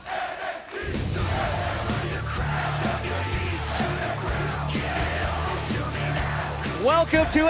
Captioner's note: fans chanting